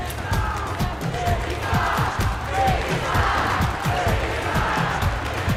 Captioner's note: crowd chanting